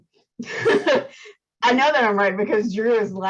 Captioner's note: laughs